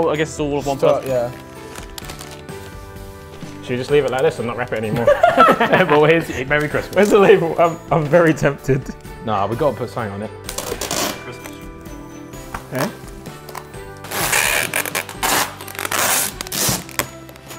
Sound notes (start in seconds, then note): 4.8 Ethan and Tobi laughing; 13.4 tape crinkling